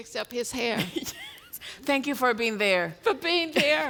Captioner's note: laughs